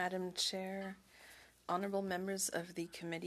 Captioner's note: speaking French